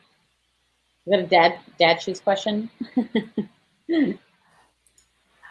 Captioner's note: laughs